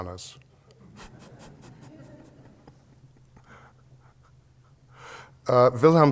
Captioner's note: laughter